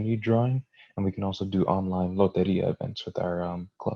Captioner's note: foreign language